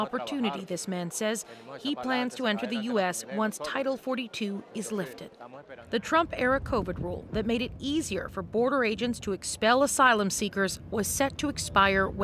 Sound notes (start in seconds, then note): 3.8 speaking Alternate Language